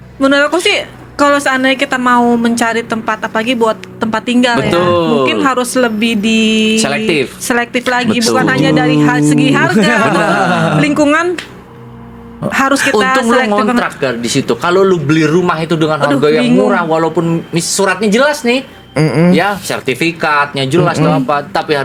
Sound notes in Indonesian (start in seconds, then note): 8.0 tertawa